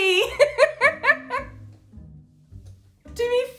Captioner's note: she laughs